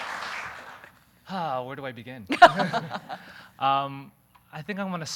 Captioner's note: laughing